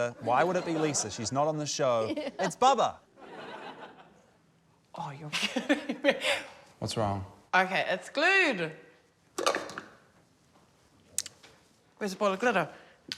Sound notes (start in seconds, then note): 5.6 laughs; 9.4 bowl clacks